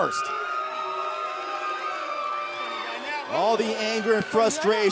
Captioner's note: cheers and boos